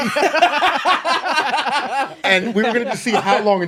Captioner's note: laughing